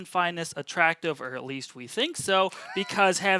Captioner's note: laughs